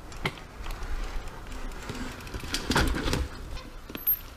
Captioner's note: bicycles creaking